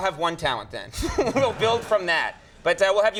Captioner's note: audience chuckles